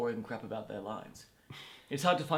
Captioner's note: sighs